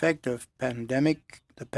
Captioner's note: speaking French